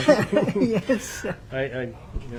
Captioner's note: laughing